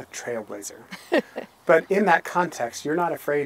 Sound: laughing

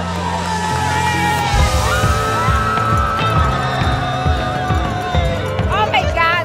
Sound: cheers

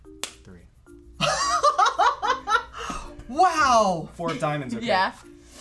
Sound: laughs

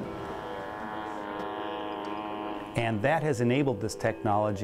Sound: sound of airplane

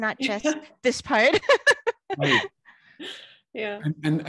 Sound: laughs

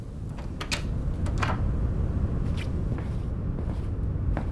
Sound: door opening

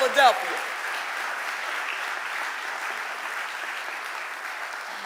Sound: audience applauding

